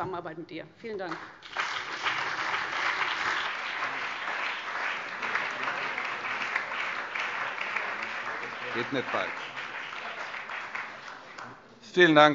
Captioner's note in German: Beifall CDU und BÜNDNIS 90/DIE GRÜNEN